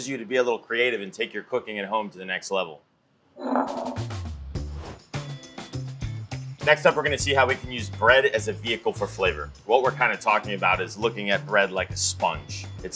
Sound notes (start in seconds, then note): 3.4 bowl slides; 3.5 upbeat music